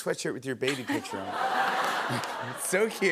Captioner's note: laughter